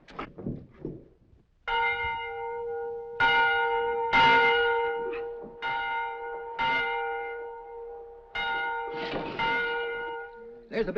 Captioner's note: bell ringing